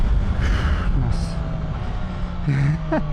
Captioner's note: sigh